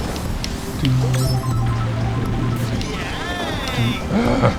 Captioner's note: humming along the course music